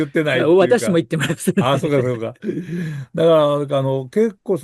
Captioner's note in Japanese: 笑い